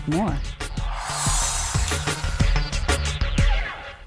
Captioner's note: upbeat music; scene swooshing